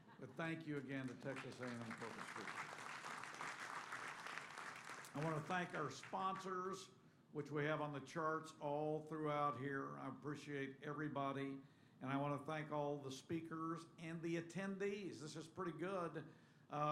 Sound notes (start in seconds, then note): 5.1 applause